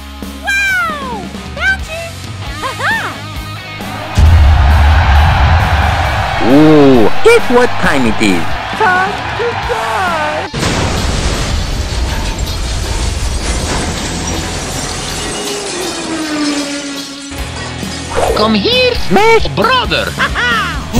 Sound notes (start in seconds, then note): 3.6 99999999999999999999999999999 people cheering; 15.2 shopping cart vrooming